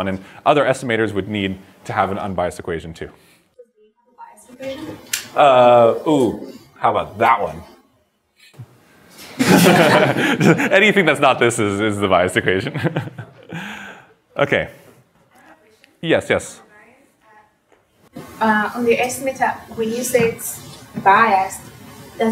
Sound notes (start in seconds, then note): 9.4 laughs